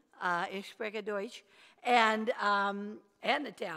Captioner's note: speaks foreign language